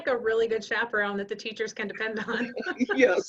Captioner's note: chuckling